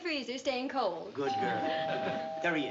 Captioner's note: doorbell ringing